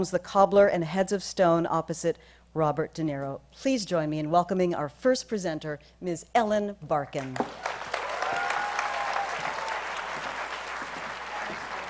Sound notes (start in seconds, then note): 7.2 applause